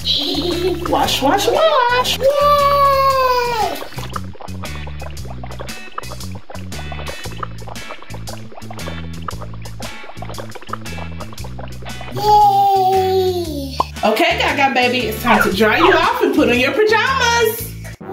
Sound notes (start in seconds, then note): 3.8 bubbles popping